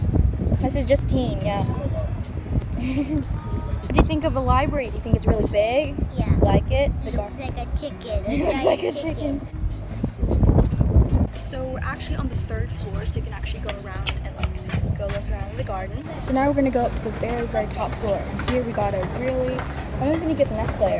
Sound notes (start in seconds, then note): 2.7 giggles for some unknown reason; 8.2 laughs